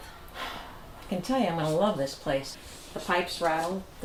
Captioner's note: sighs